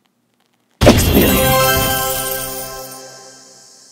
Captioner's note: explosion noise